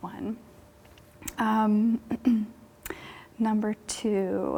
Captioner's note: clears throat